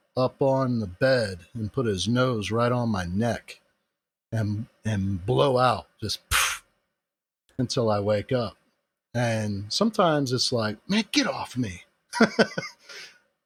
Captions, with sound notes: up on the bed and put his nose right on my neck, um, and blow out *pff* until I wake up. And sometimes it's like, man get off of me,